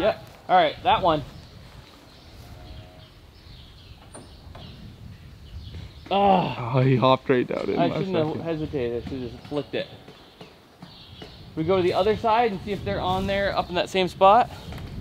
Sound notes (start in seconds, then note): 2.4 mooing cows; 2.7 birds chirping